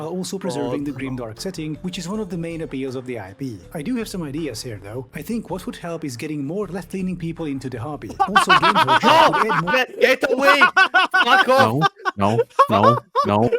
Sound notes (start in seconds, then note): 8.1 laughing in italian